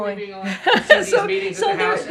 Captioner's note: laughs